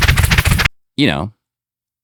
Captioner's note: rattling